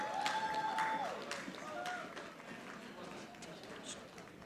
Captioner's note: audience applauding